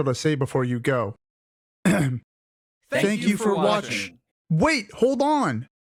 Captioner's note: ahem